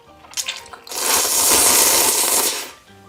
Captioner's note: slurp slrrp